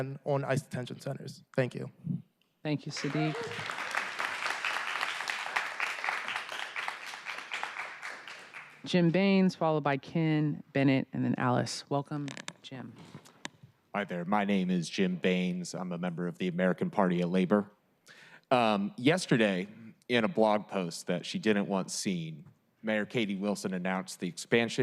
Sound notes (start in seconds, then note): 9.4 applause